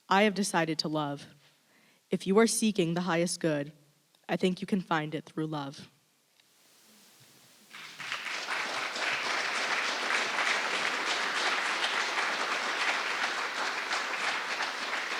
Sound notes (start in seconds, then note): 7.8 audience laughing